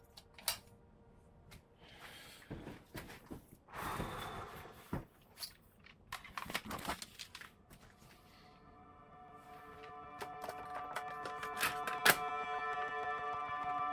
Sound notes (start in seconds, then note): 0.7 light clicks; 3.8 guidance Officer sighs; 7.7 suspenseful music